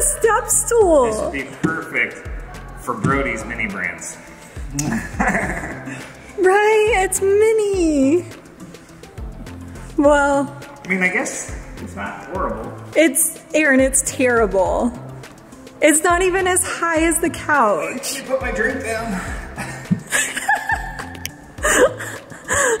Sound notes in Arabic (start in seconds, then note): 4.8 يضحك; 19.9 يضحك